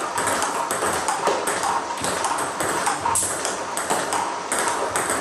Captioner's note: ball ping pong hitting continues